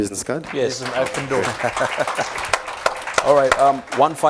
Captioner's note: applause